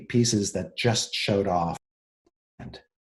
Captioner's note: mic cuts off sentence